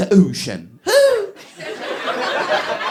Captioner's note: squeals